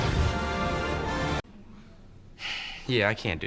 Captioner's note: deep exhale